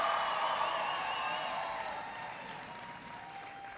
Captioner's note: applause